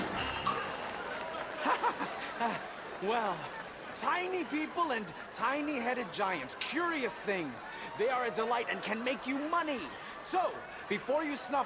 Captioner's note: laughs